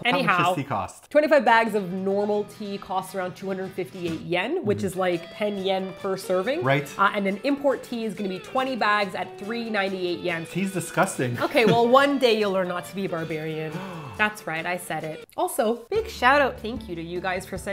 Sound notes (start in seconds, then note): 13.7 gasp